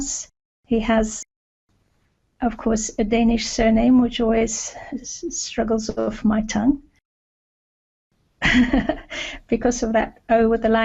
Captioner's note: laughter